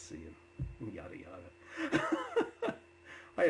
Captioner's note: laughs